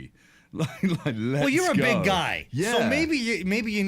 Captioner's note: laughs